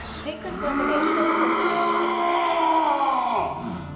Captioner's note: Megaton roars